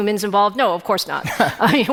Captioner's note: chuckling